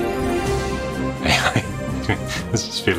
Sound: chuckles

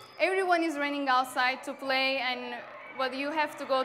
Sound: bell rings

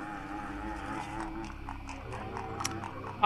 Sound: grunting

